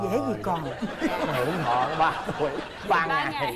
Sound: laughing

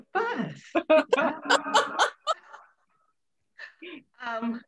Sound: laughter

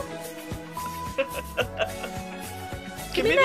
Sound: Hyde chuckles madly

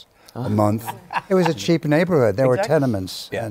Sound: laughs

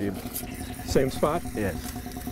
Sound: elephant groans

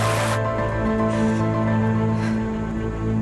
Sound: taking deep breaths

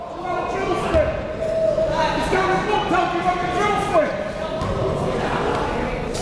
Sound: players and coaches yelling

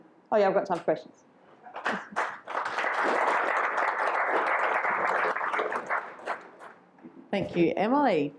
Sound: applause

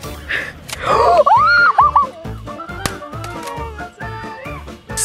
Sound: playful music; gasps; screams

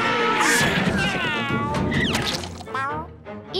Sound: meowing

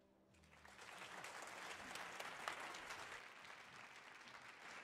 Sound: audience applauding

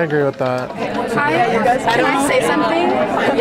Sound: participants chattering

